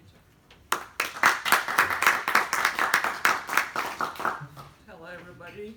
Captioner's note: applause